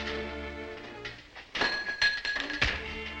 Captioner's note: rod bounces; fist smacks